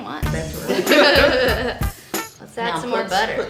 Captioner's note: laughing; hiphop music